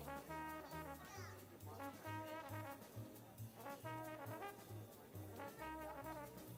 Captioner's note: people chattering; upbeat jazz music continues